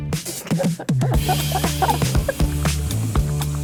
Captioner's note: both laughing